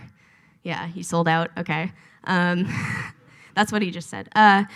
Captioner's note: laughs